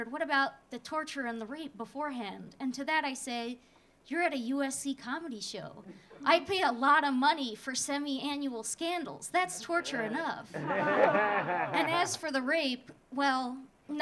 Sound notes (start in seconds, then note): 10.5 audience laughing